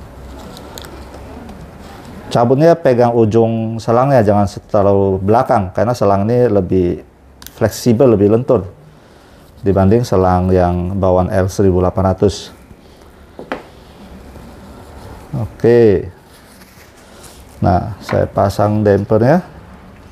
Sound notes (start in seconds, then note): 0.0 tissues noise; 6.9 rubber hose noise; 12.9 damper noise